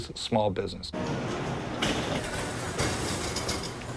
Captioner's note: factory ambience